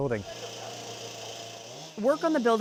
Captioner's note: power tools whirring